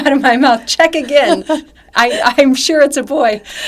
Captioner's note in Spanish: risas